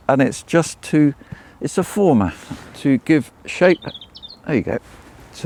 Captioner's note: none